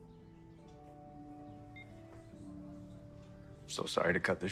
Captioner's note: phone beeping